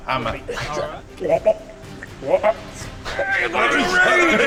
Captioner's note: retching noises